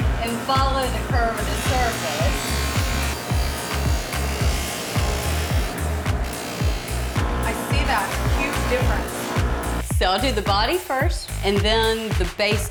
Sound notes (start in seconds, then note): 2.6 whirring, grinding sound